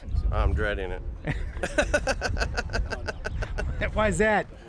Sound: laughs

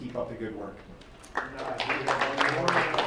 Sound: crowd applauds

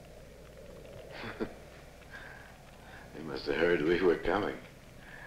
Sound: chuckling

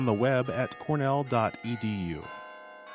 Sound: bells chiming

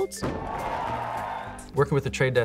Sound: crowd cheers

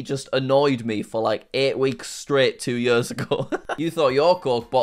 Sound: laughs

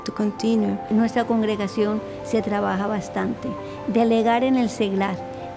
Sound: speaking in Spanish

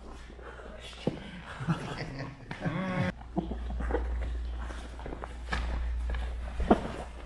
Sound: spectators chuckle

